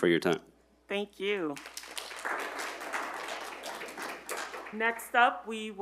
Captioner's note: audience applauding